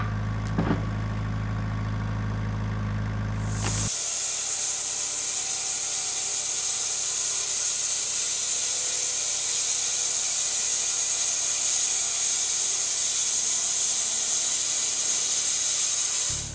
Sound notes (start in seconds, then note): 3.8 saw revving